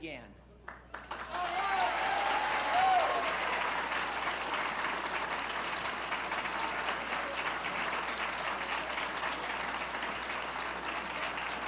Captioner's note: applauses